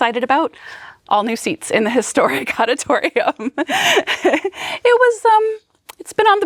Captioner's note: chuckles